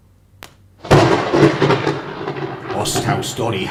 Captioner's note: thunder